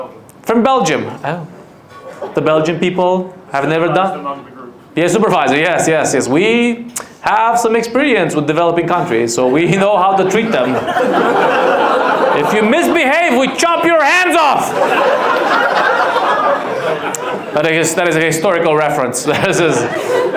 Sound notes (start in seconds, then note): 10.8 audience laughs; 15.5 audience laughs